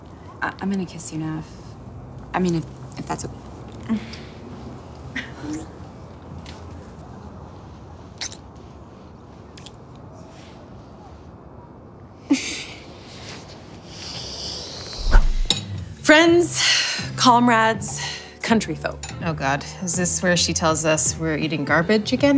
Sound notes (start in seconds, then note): 12.3 precious, adorable, happy laughter; 14.9 transitional whoosh